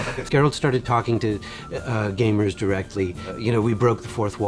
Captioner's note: in English